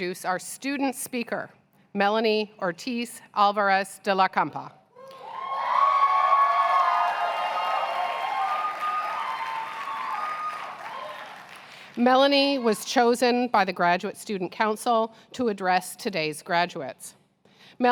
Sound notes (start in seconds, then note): 5.0 cheers and applause